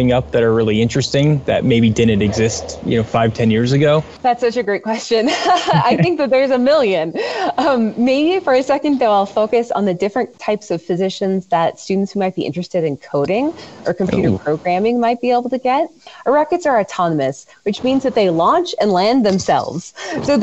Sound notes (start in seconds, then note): 5.3 laughs